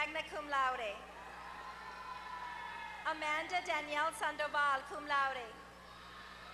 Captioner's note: applause